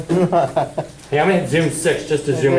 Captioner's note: student laughs